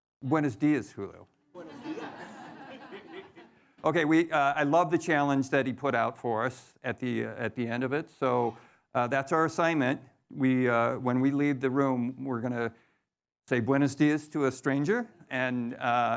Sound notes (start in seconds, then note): 0.8 speaks in foreign language; 1.5 audience laughing; 13.4 foreign language